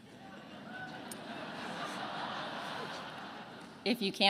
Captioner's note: attendees laughing